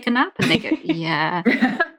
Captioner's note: laughs